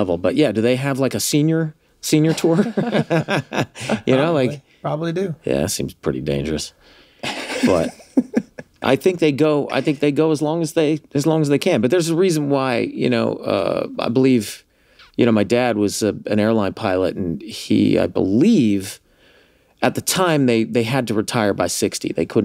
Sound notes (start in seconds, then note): 2.3 laughs; 7.2 all laugh